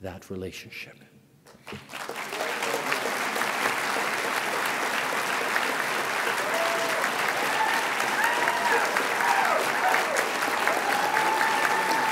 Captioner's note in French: Applaudissements et acclamations